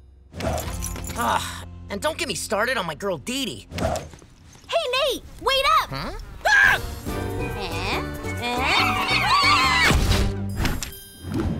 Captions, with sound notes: Ugh, and don't get me started on my girl Dee Dee. Hey, Nate, wait up! Hmm? [shrieking] Eh? Eh? [screaming]